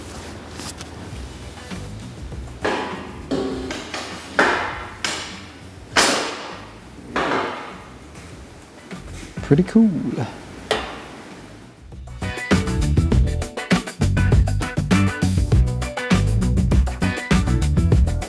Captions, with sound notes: (metal clanging) Pretty cool. (upbeat music)